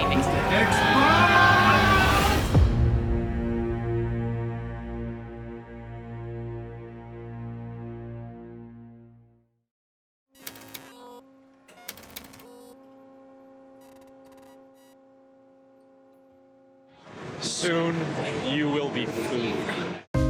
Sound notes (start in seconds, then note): 2.5 dramatic music; 10.3 static and typing